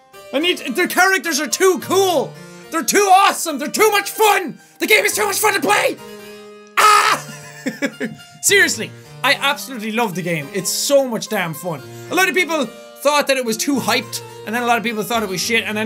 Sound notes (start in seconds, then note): 6.4 mating call; 6.8 laughs